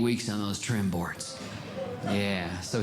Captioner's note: audience Groaning